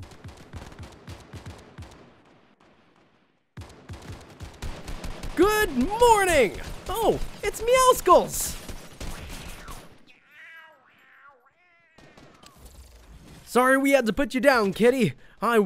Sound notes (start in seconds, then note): 0.0 gunshots in the distance; 4.7 gunshots; 9.2 angry cat hisses